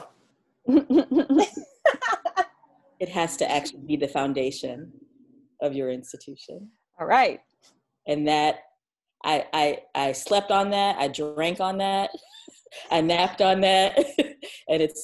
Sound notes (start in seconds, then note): 0.7 laughter